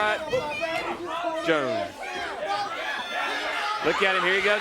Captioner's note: crowd chatter